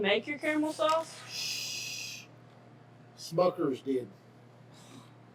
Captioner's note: shushes